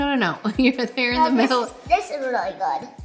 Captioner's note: laughing